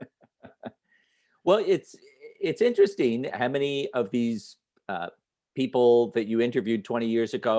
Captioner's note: chuckles